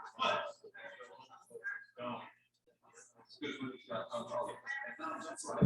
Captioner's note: people chattering indistinctly